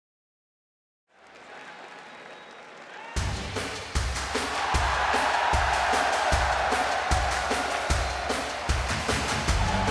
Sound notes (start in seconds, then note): 3.2 upbeat music; 3.8 crowd cheering